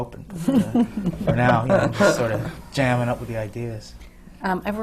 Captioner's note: laughter